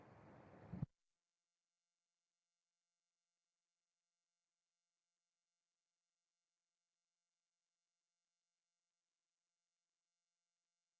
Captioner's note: silence